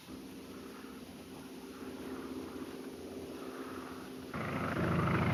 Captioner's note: airplane engine roaring